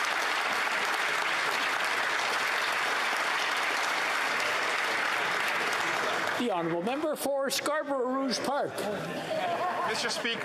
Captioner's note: applause